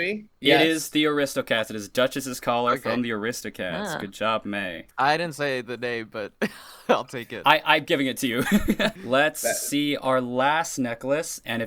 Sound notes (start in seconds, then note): 8.4 laughs